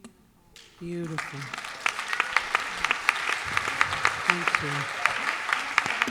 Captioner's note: applause